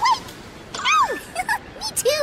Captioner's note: laughs